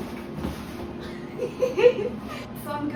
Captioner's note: laughing